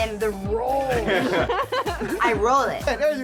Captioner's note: laughter